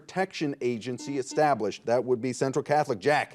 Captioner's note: buzzer beeping